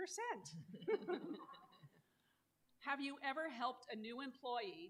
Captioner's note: laughter